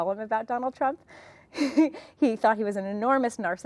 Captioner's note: laughs